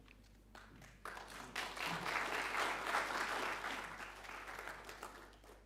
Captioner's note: audience applauding